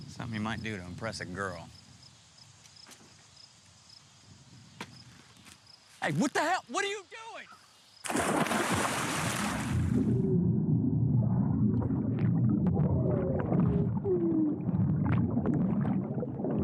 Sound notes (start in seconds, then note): 8.0 loud splash